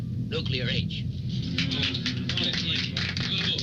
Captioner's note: applause